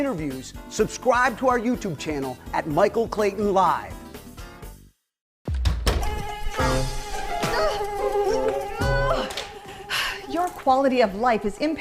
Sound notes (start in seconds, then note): 4.3 door closes; 6.1 insects flying; 6.2 women screams